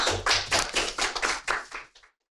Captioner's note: all applaud